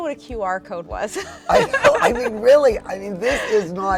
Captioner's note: laughing